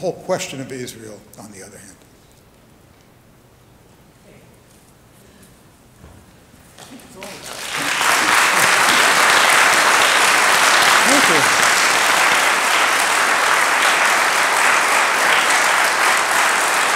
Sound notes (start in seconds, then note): 7.1 applause